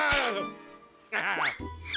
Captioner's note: groaning